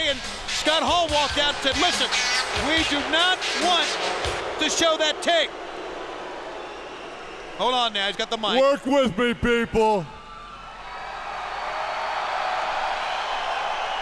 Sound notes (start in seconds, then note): 5.9 crowd booing; 11.1 crowd cheering